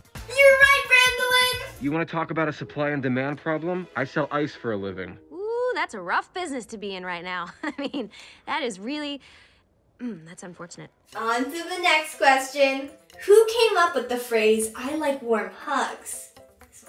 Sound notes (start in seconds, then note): 7.6 laughs; 10.0 clears throat